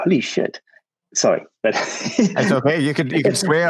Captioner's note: laughs gents